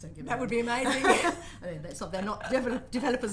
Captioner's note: laughs